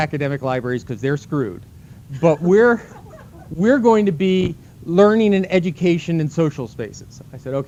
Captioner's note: laughter